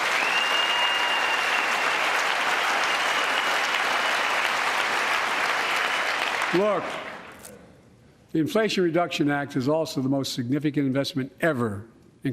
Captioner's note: applause